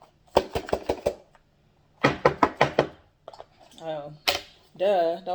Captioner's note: box banging